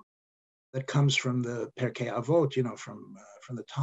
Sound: speaking Hebrew

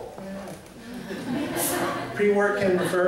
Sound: laughter

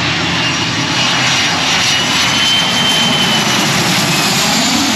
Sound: airplane engine roars

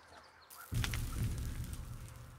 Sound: disembodied whispering; dirt falls

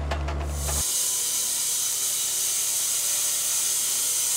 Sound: saw revving

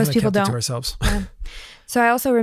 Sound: laughs

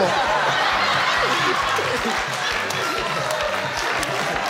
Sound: audience laughing

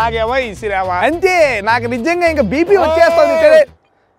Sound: man screams

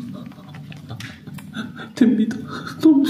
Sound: suddenly laughing like crazy

